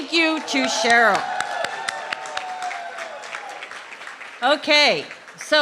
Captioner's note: clapping